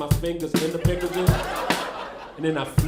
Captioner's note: crowd laughing